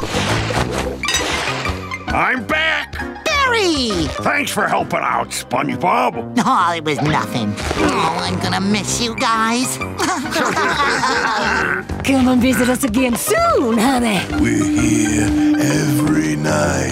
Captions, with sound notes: I'm back! Barry! Thanks for helping out SpongeBob. Aww, it was nothing. Aww I'm gonna miss you guys! [laughing] Come and visit us again soon honey. We're here every night.